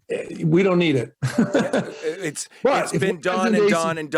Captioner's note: both laugh